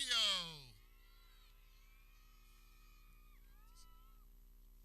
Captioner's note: people cheering